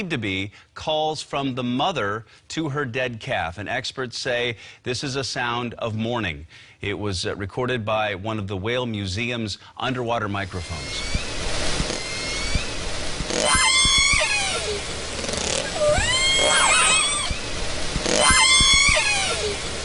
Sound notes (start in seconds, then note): 11.6 sorrowful cries and squeals